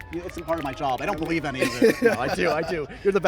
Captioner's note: laughs